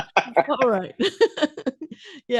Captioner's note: laughing